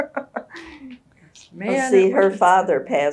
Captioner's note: laughs